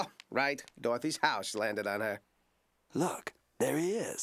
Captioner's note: none